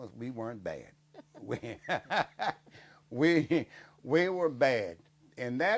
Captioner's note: laughing